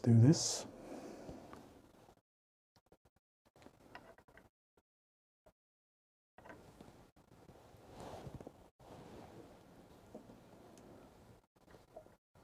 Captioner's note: silence